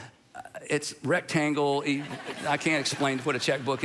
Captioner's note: congregation laughing